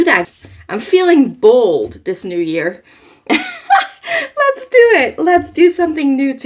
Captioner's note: laughs